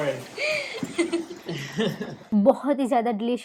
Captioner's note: laughing